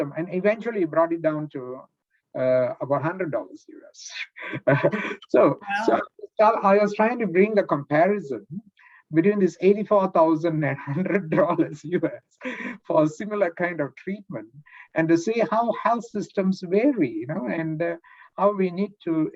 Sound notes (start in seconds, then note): 4.4 laughs